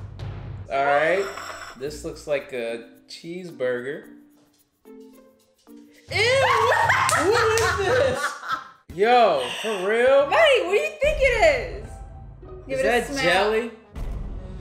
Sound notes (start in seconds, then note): 6.2 laughs hysterically; 14.4 dramatic, exclamatory music